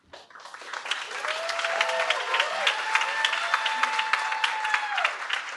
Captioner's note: applause